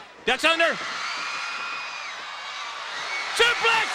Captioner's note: audience cheering